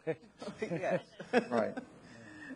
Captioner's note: laughs